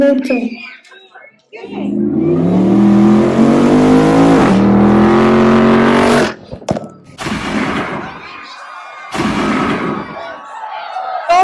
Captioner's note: car noise.....Gun Shot.......................Screams